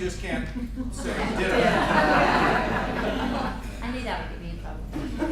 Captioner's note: laughter